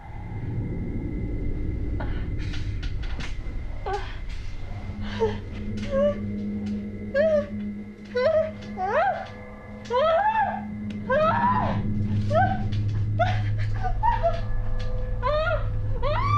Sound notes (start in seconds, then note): 4.9 Maggie moaning; 8.4 Maggie screaming; 13.9 dramatic music